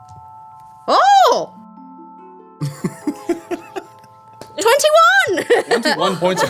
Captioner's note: screaming